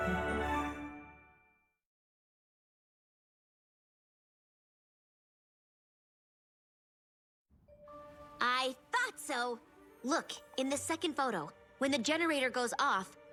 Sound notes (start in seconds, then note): none